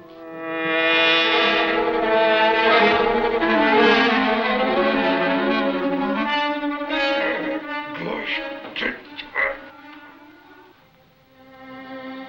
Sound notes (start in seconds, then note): 0.1 Black Beauty buzzing; 7.3 Axford muttering